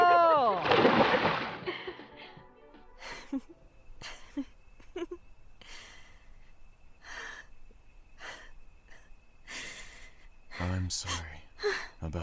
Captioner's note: pool water splashes; soft laughter that turns to sobs